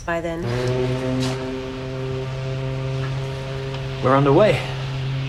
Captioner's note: ship horn blowing